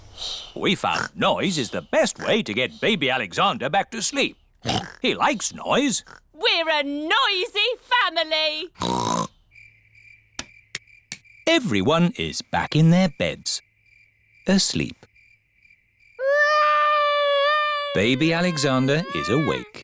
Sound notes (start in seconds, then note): 4.6 oinks; 16.2 baby alexander crying